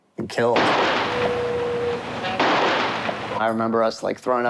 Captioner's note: gunshots firing